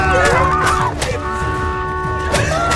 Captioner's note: car horn; screaming